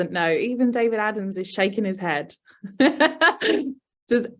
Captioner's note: laughs